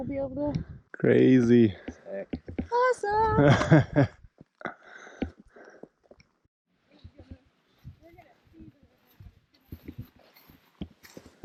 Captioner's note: laughs